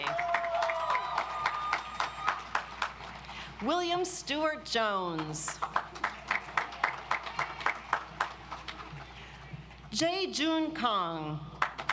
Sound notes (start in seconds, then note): 0.0 audience applauds; 5.6 audience applauds